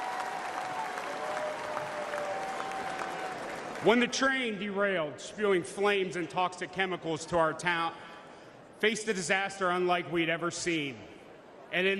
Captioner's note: applause